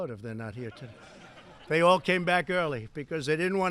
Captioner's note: laughter